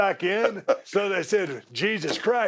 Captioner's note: laugh